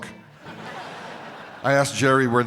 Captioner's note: crowd laughs